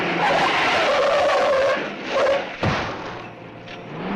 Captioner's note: tires screeching